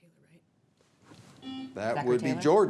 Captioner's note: signal beeps